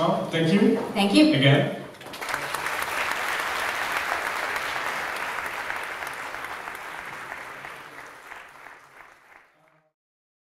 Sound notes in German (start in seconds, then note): 2.0 Beifall